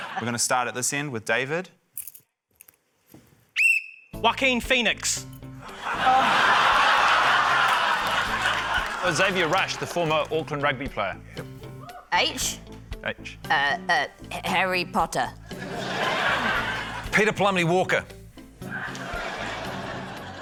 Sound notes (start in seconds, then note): 0.0 laughter; 3.5 blows whistle; 5.7 laughter; 15.6 laughter; 18.7 laughter